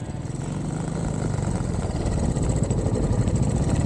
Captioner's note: bike engine